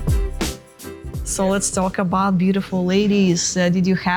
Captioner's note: Ukrainian